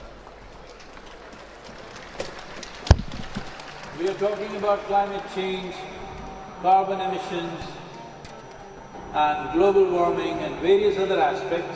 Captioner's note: audio disturbance